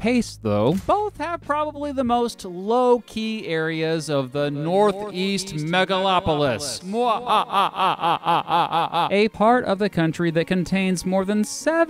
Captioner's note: mwhahahahahaha